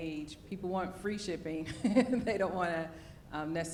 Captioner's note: laughs